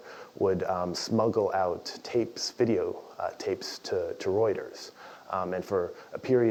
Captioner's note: none